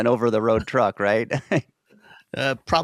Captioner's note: chuckles